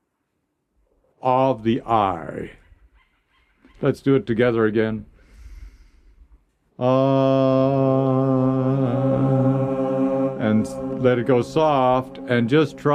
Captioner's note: chanting